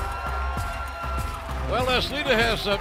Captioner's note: cheers and applause